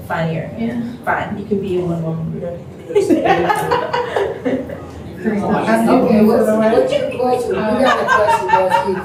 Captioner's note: laughter